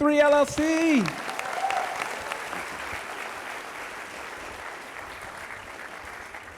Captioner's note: audience applauding